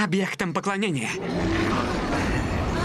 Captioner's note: roars